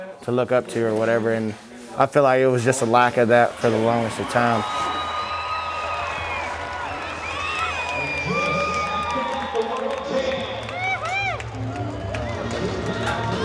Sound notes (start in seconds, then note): 5.1 crowd cheering